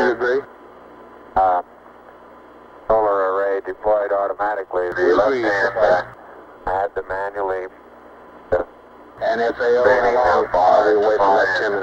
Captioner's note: mission Control Audio